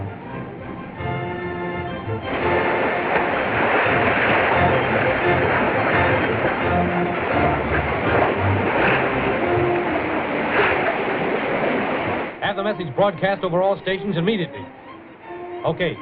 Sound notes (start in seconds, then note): 0.1 fast-paced music; 3.7 water rushing